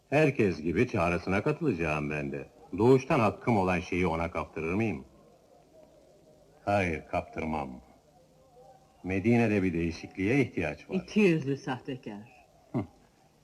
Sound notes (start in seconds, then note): 5.7 chuckles